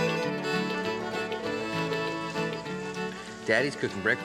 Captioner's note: sizzling